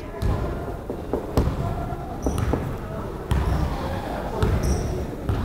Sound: crowd chattering

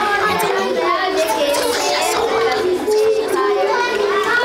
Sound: whispering

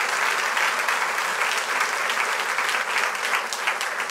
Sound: crowd cheers; crowd applauds

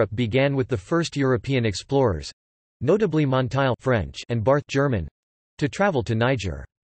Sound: German

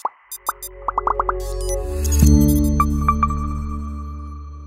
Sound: gentle electronic tones

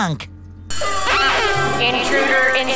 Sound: alarm sounding

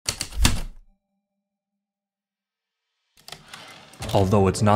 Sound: heavy typewriter keystrokes, typewriter return slide, ♪ atmospheric

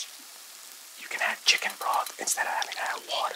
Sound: taps spoon on pan

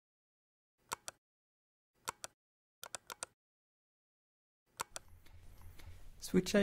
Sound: click sounds

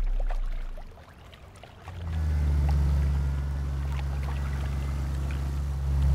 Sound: car zooming

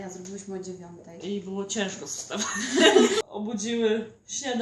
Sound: laughs

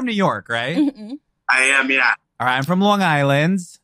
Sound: laughs

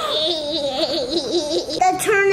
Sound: giggles

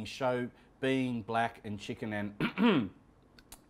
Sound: clears throat

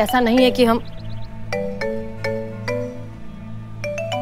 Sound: phone ringing

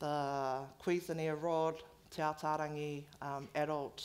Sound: foreign language

